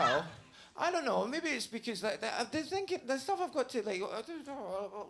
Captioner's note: murmuring